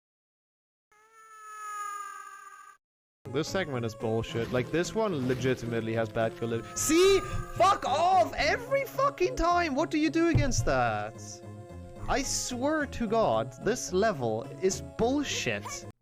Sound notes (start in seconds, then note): 1.0 harry screaming while falling into the void